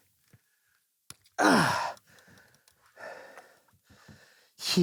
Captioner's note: sighs